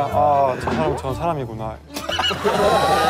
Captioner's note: calmly